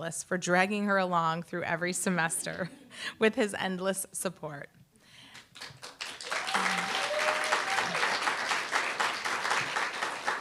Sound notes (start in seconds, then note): 5.3 applause, cheer